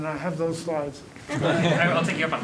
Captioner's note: laughter